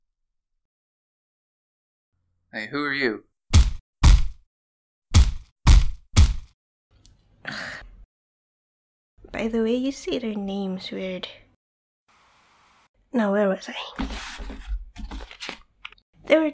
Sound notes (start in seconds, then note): 0.1 silence; 3.6 smack smack smack smack smack; 12.1 static noise; 14.0 papers rustling